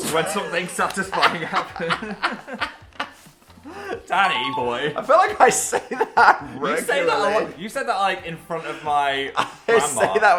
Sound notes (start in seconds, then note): 1.0 both laughing; 5.4 laughing